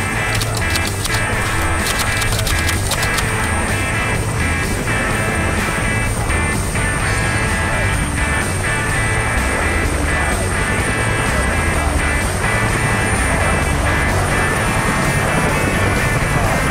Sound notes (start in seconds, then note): 0.2 typewriter clicking; 4.8 blades whirring; 4.8 upbeat music